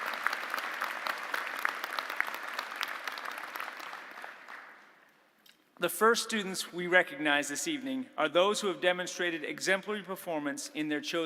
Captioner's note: applause